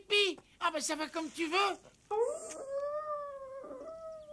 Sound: howls

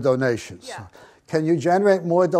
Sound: voiceover

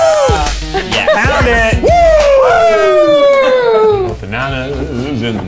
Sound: cheering

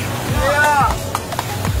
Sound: clapping

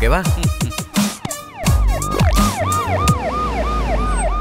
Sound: police siren wails

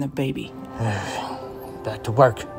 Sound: Ray sighing

